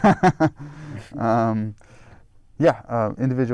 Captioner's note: chuckling